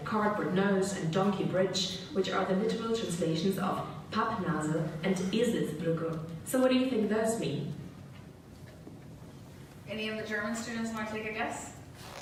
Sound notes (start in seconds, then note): 4.2 speaking German